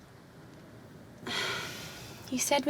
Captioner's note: Rose sighing